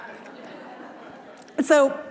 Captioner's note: audience laughing